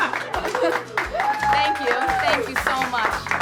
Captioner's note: laughs; clapping